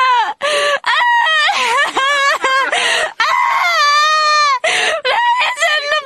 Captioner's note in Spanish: Llanto épico